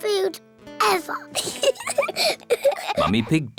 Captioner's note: both giggle